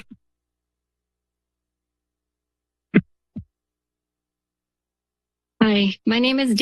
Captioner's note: silence